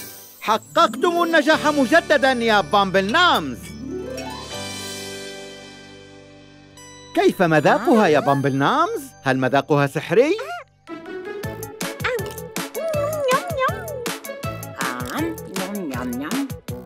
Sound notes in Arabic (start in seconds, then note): 12.0 صوت تلذذ; 14.7 صوت تلذذ